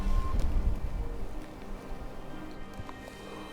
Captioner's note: elk bugling